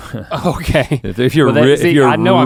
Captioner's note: laughing